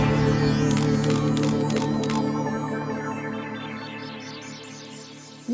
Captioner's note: new age pop music; camera flashing noises